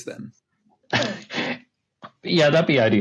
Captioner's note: laughing